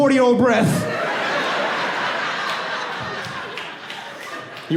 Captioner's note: audience laughing